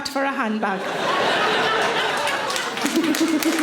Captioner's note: audience laughing; audience applauding